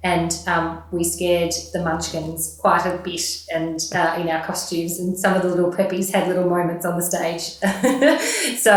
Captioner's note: laughing